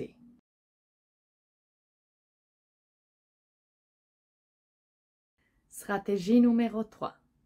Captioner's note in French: silence